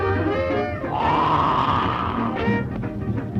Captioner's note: alligator growls